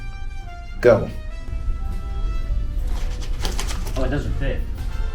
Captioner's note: sounds of paper struggling